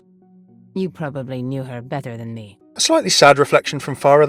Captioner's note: voiceover